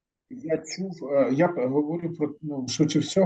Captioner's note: non-english speech